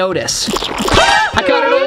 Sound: loud splattering

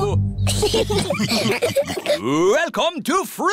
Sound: laughter

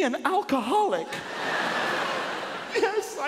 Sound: audience laughing

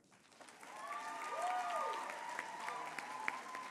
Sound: applause

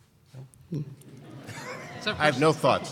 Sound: laughing

